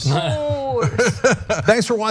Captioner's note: laugh